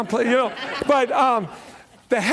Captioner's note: laughter